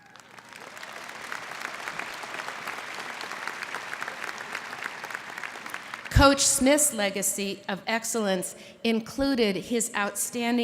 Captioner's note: applause